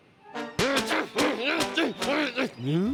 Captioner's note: shouting